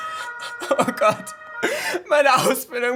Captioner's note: siren